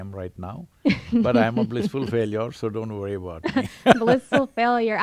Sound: laughs; both laugh

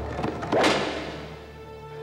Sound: crack!

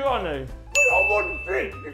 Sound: ding

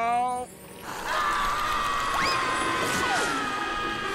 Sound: both screaming

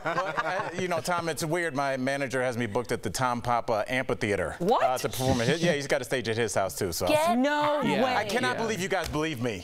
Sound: laughter

